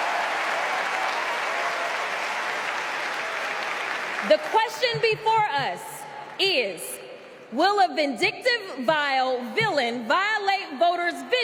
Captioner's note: applause